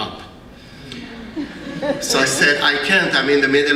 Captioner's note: laugh